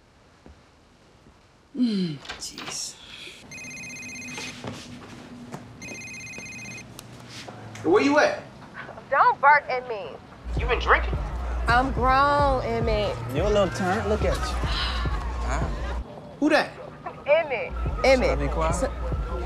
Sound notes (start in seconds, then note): 3.5 phone ringing